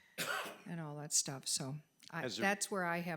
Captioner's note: trustee coughing